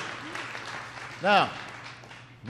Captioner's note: applause